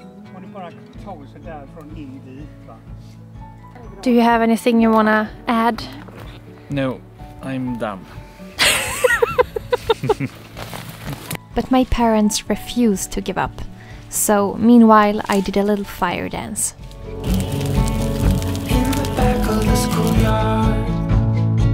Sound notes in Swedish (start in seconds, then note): 8.6 Skratt